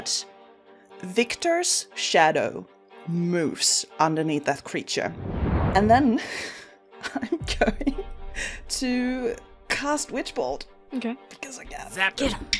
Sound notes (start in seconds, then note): 6.7 laughs